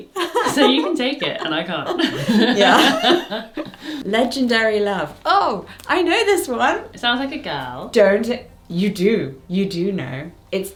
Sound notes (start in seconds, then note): 3.1 both laugh